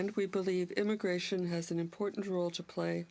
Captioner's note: speaking French